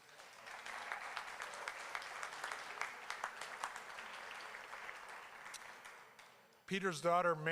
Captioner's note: applause